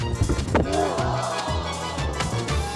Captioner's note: playful music; body thudding; onlookers groaning; man moaning; playful music